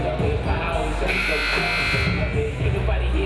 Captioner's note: buzzer buzzing